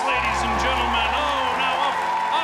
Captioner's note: crowd cheers